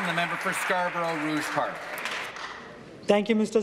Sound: applause

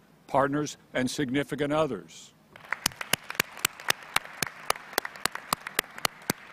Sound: applause

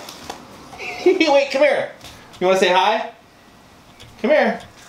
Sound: laughs

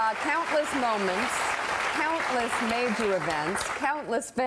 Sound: applause

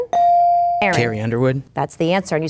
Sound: bell dinging

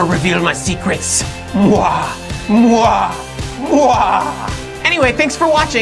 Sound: maniacal Laughter

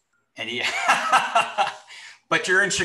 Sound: laughs

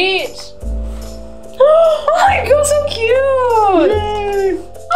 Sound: gasps

